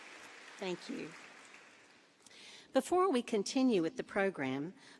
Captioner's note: applause